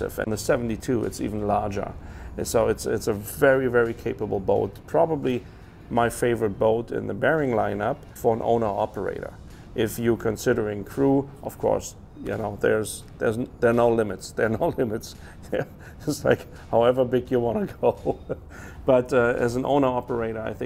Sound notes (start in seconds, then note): 15.4 chuckles; 17.8 laughs